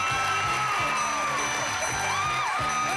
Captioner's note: cheering